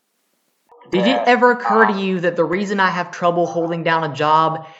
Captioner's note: on phone, angrily